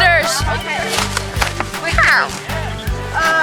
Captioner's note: Minecraft noise